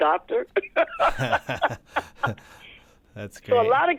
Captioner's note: laughter